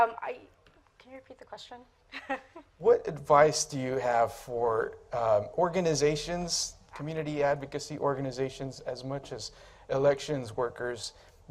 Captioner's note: speaking in Spanish; speaking in English